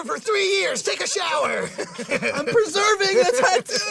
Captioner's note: laughing